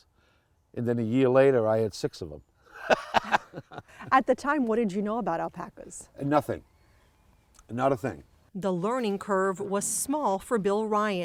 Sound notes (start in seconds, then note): 2.7 laughs